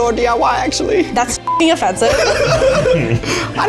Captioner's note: in puppet voice; beep; in puppet voice